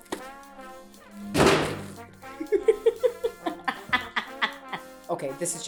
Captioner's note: sound of box lid loudly landing in the trash can